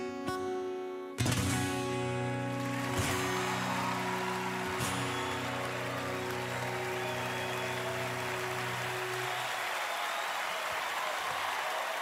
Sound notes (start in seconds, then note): 2.9 song ends; 5.0 cheering, applause